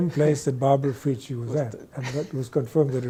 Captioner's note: laughs